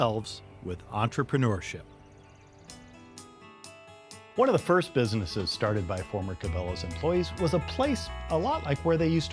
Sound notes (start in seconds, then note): 2.5 birds chirping; 4.3 upbeat music